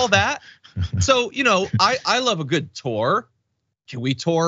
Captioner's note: laugh